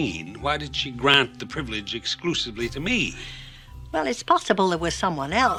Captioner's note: sigh